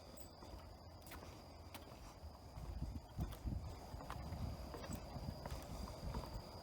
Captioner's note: footsteps tapping; wind blowing